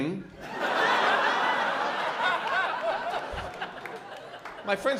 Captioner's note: laughter